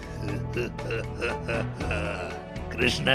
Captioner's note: laughs